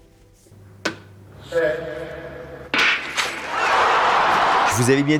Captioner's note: sounds of a track and field event